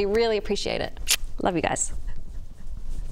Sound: mwah

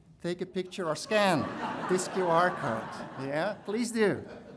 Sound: audience laughing

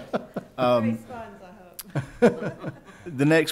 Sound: laughing

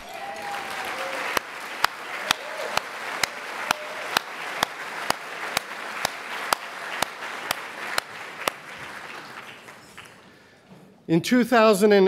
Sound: applause

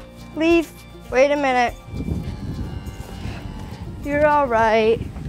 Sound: steer mooing; clicking with mouth

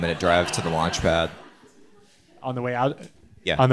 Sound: audience laughing

